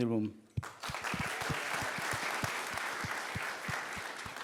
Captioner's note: applause